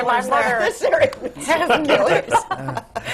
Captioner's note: laughter